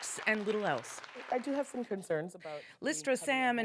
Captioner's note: applause